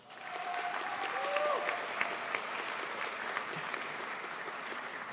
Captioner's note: crowd applauds